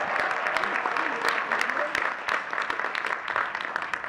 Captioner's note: all laughing